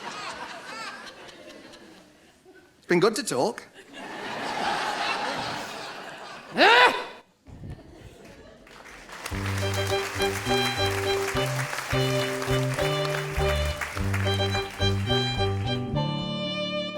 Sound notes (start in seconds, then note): 6.6 Pauline gives an exasperated grunt; 10.4 audience applause